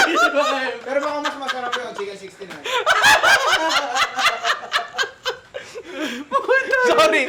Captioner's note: laughter